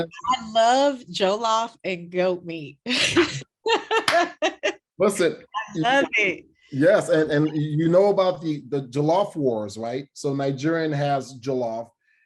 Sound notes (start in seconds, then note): 3.7 laughing; 4.0 clap